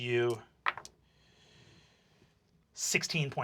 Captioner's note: rolls dice